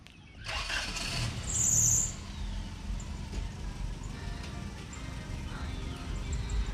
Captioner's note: truck rumbling